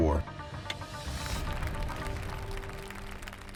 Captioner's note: applause